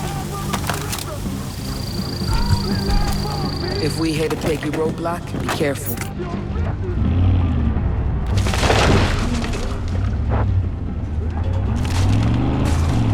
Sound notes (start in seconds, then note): 8.1 gun firing; 10.6 dramatic music